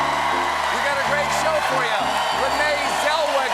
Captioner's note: cheers and applause